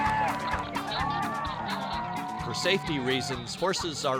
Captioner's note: crowd shouting